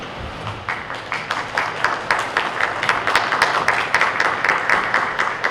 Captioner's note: audience applauds